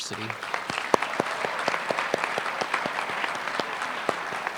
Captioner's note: applause